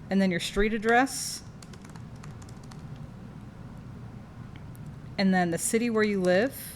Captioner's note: typing noises